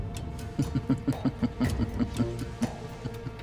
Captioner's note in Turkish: Gülme sesi